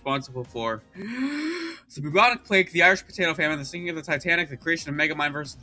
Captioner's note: takes deep breath